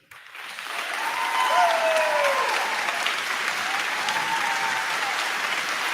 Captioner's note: crowd clapping; crowd cheering